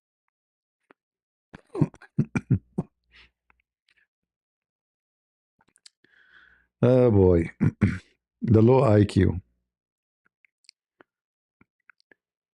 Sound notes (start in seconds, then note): 1.6 berdehem; 7.5 berdehem